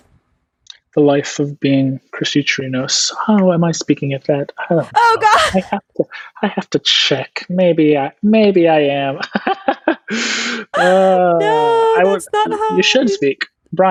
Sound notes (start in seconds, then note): 4.7 laughs; 10.7 laughs